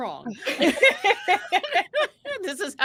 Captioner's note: group laughing